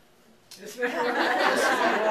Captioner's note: laughter